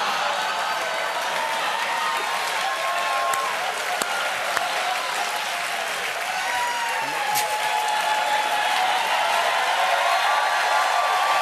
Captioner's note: applause; laughter